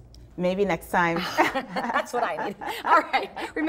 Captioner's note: laughs